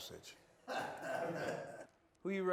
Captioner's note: laughs